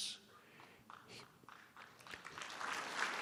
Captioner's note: applause